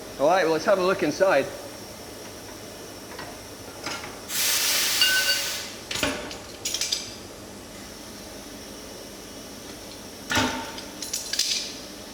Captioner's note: undo clamps and steam released